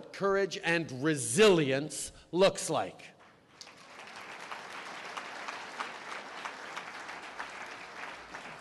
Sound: applause

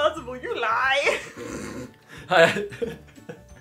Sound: laughing

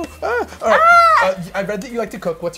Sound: squeals

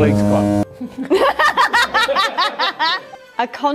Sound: all laugh

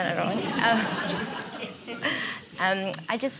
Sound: laughter

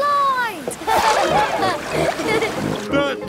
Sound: laughing

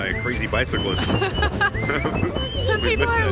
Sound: laughing

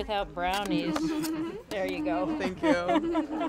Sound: group laughs

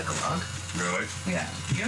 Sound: josh brolin speaking

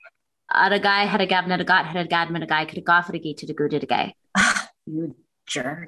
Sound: speaking in gibberish

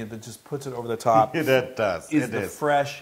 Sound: laugh

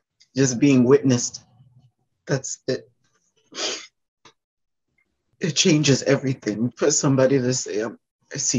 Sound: sniffle

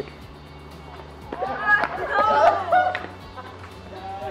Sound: laughter

